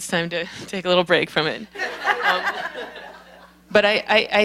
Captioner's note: laughter